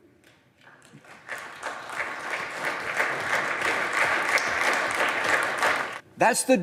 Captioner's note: applause